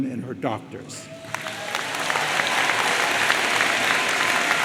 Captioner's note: audience applauds